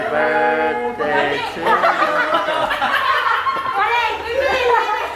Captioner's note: group laughing